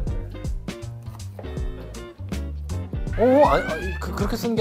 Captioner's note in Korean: 서걱서걱